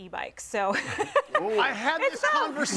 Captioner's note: laughs